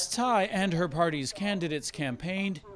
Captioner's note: speaking foreign language